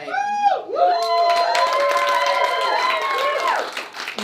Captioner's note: cheering